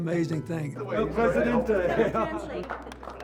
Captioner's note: laughs and claps